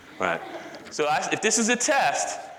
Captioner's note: audience laughter